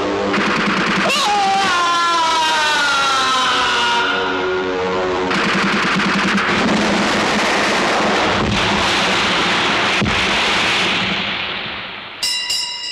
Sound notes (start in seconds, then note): 0.0 gunfire; 5.2 explosion